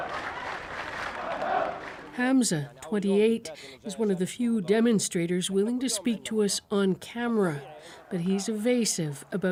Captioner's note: chanting